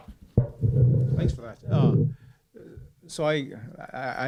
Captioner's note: voiceover